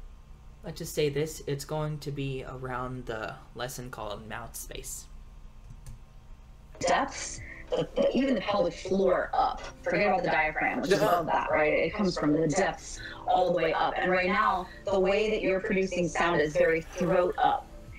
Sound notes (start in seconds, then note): 10.8 laughs